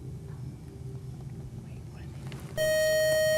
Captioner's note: loud buzzer